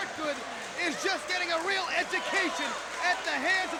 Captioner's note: crowd cheering